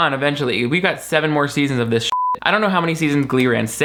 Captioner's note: beep